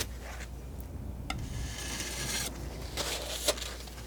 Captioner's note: metal scraping